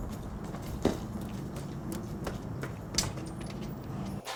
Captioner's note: footsteps tapping